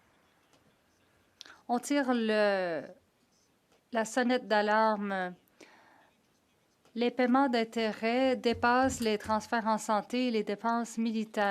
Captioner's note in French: voix de l'interprète